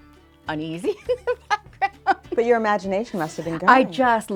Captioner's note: laughs